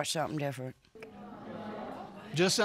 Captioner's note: audience exclaiming